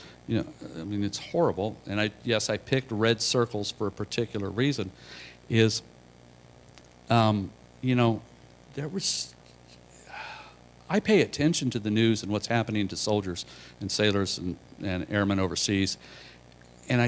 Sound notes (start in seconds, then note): 10.0 sigh